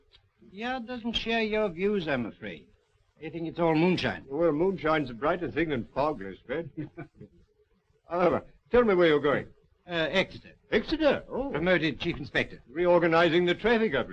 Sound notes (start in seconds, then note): 6.7 laughing